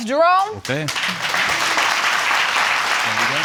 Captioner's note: audience applauding